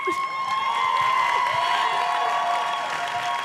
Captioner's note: cheers and applause